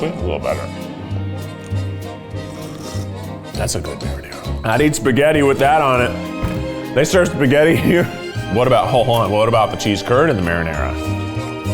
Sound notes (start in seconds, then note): 2.1 slurping